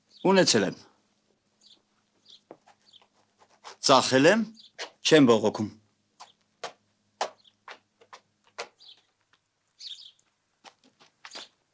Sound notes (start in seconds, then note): 7.2 pitter-patter